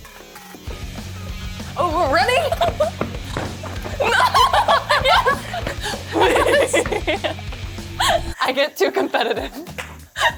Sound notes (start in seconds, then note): 1.4 steps stomping; 1.6 upbeat music; 4.0 both laughing and giggling